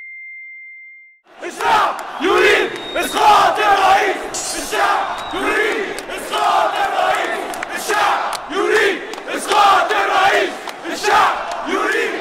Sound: chants

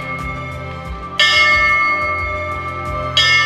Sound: bell dings

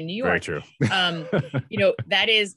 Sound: laughing

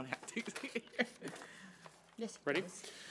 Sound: laughs

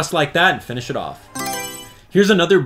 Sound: Mario Selection Sound

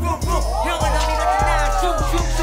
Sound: shouting

